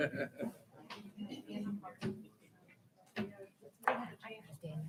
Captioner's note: people laughing